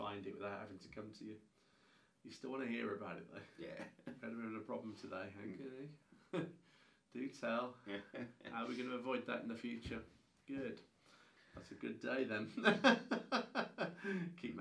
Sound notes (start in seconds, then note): 3.7 laughing; 7.8 laughs; 12.4 both laughing